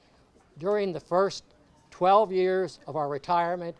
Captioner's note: none